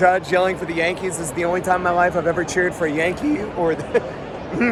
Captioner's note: voice crack